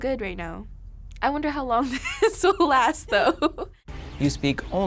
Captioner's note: laughs